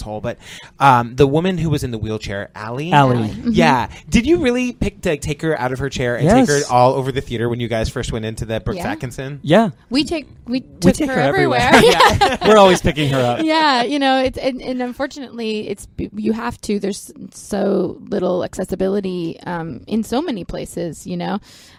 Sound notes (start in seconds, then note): 11.5 laughter